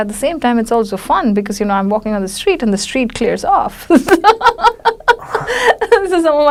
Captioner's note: laughs